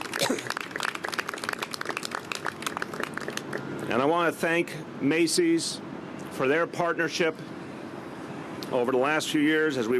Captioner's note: applause